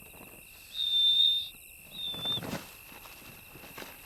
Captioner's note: owlets chirping